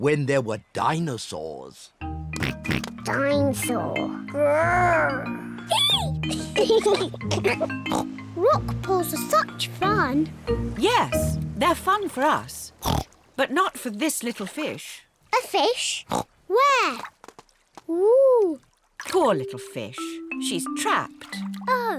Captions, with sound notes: when there were dinosaurs. (OINKS) Dinosaur! (ROARS) -Eek! -(BOTH GIGGLE) Rock pools are such fun. Yes. They're fun for us. But not for this little fish. A fish? Where? Ooh! Poor little fish. She's trapped.